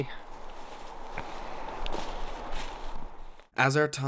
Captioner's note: footsteps rustling